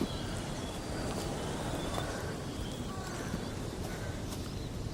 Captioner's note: wind